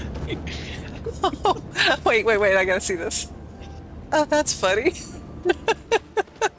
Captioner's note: laughter; laughter